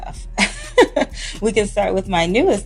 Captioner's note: laughing